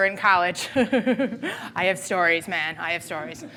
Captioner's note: laughing